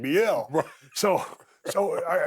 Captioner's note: chuckles